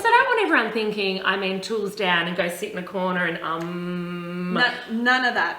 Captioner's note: hums